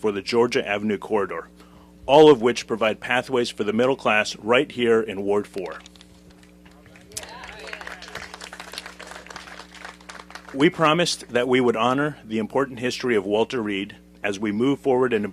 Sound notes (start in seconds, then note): 6.6 applause